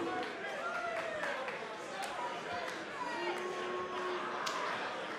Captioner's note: crowd shouting